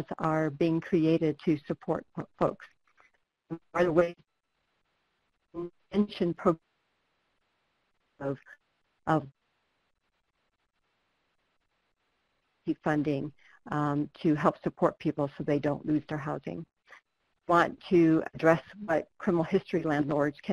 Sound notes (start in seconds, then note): 3.5 audio dropping out; 9.4 no audio